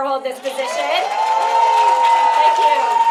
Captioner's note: applause